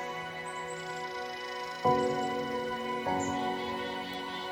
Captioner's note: birds chattering